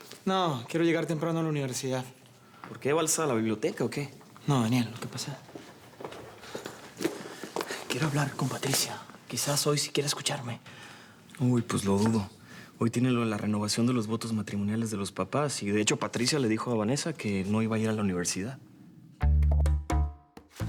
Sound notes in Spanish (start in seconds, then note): 7.9 En voz baja